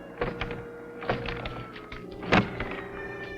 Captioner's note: mental clanking; door banging